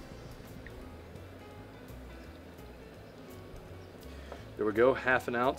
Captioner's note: lemon juice trickling